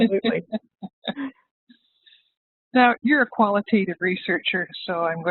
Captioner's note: laughs